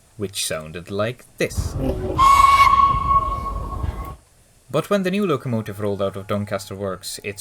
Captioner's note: bell whistle